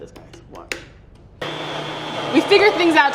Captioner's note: blender running